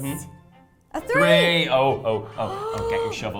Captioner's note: gasps